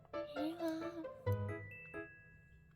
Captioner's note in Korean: 상냥한 목소리